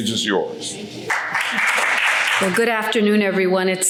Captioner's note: audience applauds